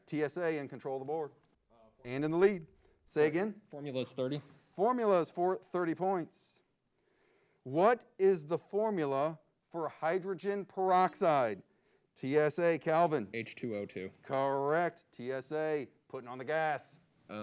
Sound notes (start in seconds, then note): 11.2 buzzer beeps